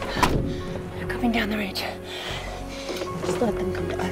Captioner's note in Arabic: none